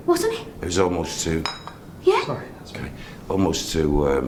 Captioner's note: clinking sound